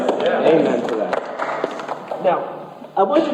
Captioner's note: congregation claps